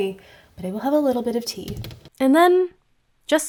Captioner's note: taps fingers